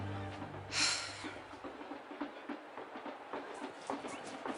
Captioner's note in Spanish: Regina exhala; Ruidos en la TV